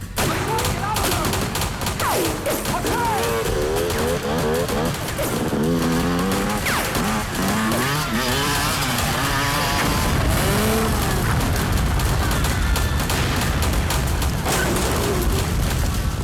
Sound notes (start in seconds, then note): 0.2 guns firing; 3.4 motorcycle engine revs; 10.1 explosion rumbles; 13.3 guns firing